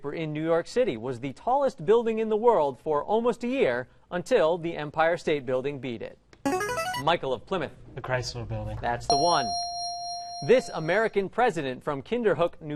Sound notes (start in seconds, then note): 6.4 ringer; 9.1 ding